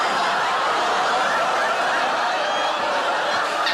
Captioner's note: everyone laughs